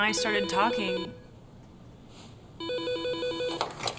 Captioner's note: phone ringing